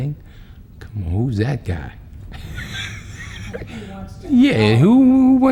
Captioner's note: laughs